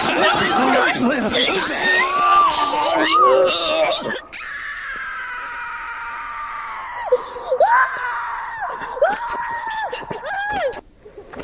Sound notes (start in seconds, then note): 0.1 screaming; 1.4 vomiting; 4.5 screaming